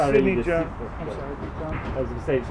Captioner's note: reporters chatter